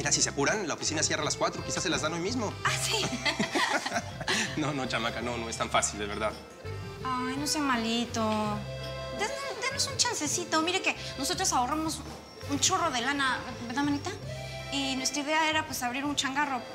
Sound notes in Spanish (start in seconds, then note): 5.5 risas